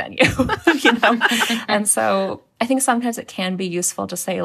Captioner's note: laughter